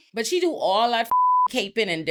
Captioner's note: beep